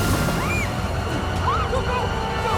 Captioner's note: screams